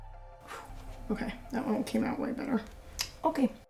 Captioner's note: sighs